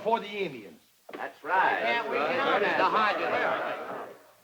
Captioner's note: men murmur